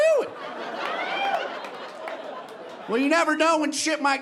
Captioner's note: audience laughing